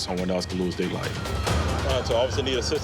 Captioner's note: siren wails